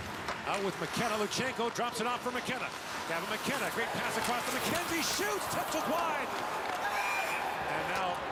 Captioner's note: cheering